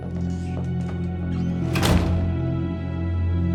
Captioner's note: door closes